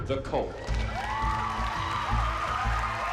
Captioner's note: cheering